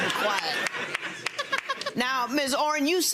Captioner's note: audience laughs